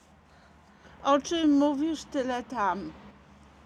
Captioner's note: Polish